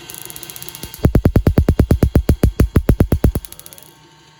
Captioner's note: loud, distorted popping noises; bzzzzzz